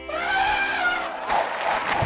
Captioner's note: elephant trumpeting; audience applauding